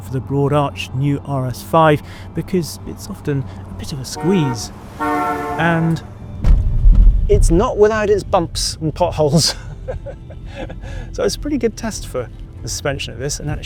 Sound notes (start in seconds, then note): 3.9 vehicle honks; 10.4 laughs